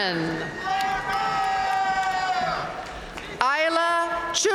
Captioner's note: audience cheering and applauding